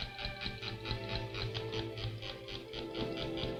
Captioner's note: toy winding